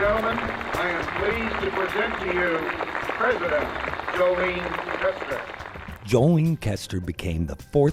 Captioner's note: applause